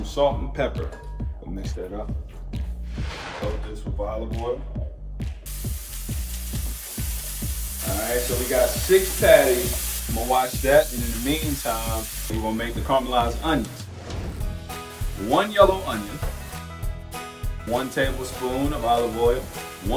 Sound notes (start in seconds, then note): 2.9 air whooshes; 5.4 oil sizzles in pan; 13.7 air whooshes; 14.2 upbeat music